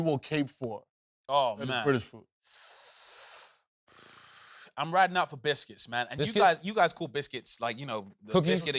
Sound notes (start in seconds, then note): 3.6 buzzes lips; 3.8 inhales sharply